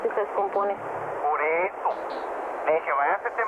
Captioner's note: non-english speech